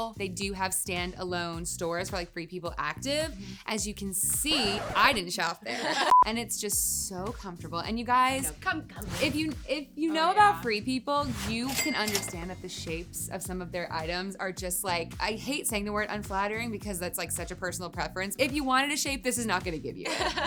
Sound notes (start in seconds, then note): 4.3 record scratching; 6.1 electronic beeping; 9.0 air whooshing; 11.6 cash register chiming; 20.0 laughing